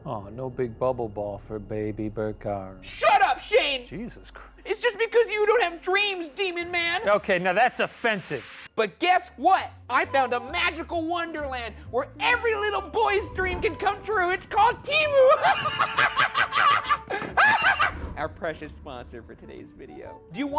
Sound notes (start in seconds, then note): 15.0 laughing maniacally